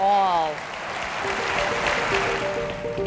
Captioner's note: applause